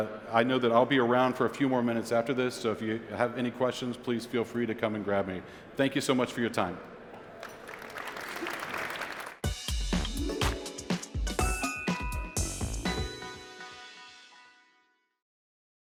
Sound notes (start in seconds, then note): 7.2 applause; 9.4 upbeat music playing